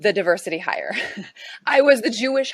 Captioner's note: chuckles